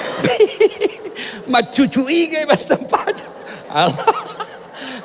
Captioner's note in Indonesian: tertawa